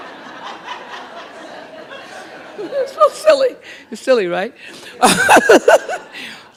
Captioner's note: laughter; laughter continues